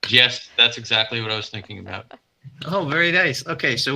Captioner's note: chuckles